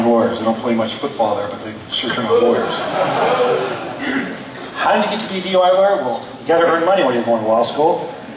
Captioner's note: laughs